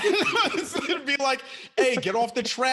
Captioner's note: panelist chuckles